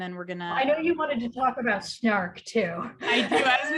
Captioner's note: chuckles